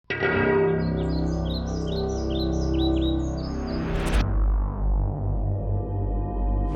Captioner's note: dramatic music; birds singing